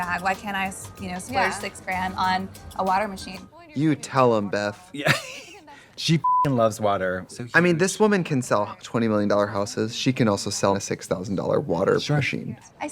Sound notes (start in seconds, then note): 5.0 Katya laughs; 6.2 beep